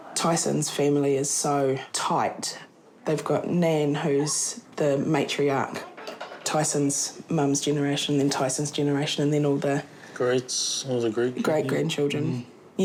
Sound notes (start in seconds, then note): none